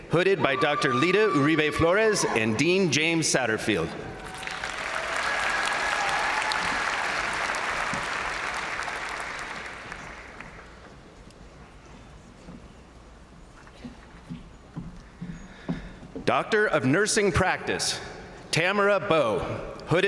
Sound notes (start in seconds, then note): 4.1 crowd applauding